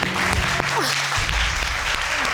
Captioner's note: exhales